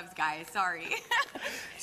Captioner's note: laughing